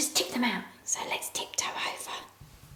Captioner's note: whispers